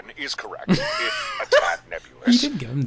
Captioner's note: laughing